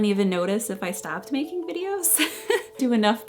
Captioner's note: laughs